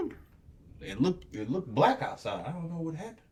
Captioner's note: none